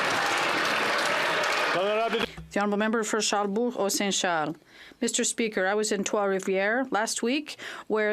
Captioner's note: some Applause